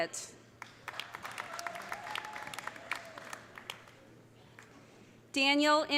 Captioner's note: audience applauding; audience cheering